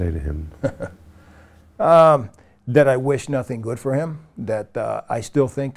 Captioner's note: laughs humorlessly